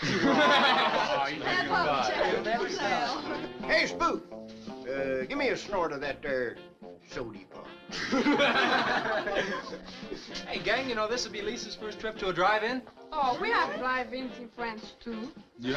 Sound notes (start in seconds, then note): 0.0 all chuckling; 0.6 teens chattering; 7.9 all chuckling